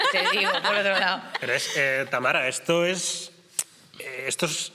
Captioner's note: laughter